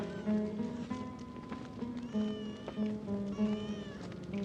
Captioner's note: baby crying